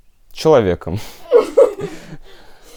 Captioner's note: laughter